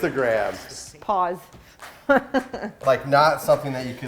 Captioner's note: laughing